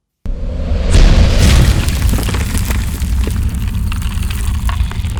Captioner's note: rock breaking